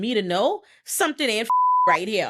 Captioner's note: beep